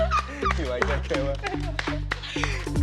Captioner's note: laughter